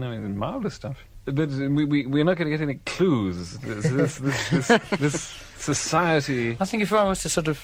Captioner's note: laughter